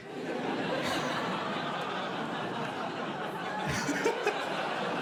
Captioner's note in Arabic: ضحك; يضحك